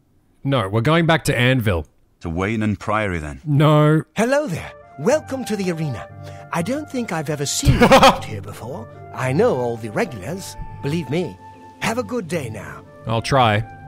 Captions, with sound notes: No, we're going back to Anvil. No. [Laughing] I'll try.